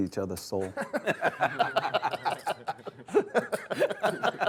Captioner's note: players laughing